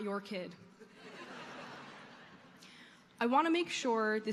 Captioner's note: audience laughing